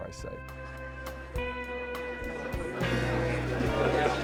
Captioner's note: A group of people chattering loudly inside a house